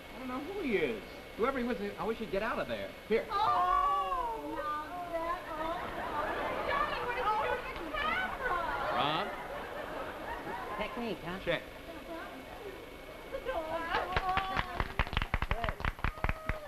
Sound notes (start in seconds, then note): 3.3 women ooh and ah; 14.0 clapping